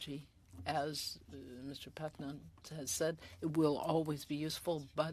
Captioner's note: speaking French